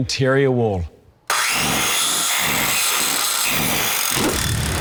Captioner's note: electric sawing sound